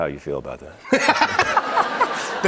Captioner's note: laughter